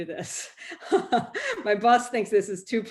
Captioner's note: laughs